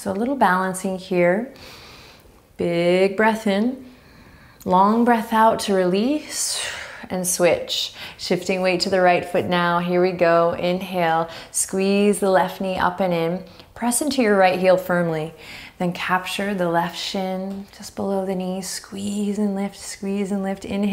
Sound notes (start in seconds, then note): 1.5 inhaling deeply; 6.2 exhaling strongly